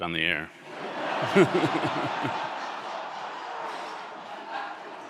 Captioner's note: audience laughing